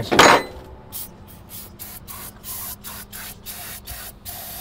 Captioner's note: can sprays